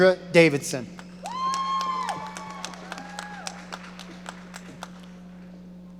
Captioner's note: audience cheering